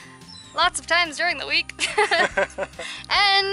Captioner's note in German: Lachen